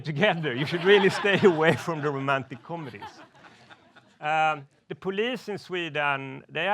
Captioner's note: laughs